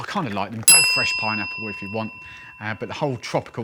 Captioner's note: ding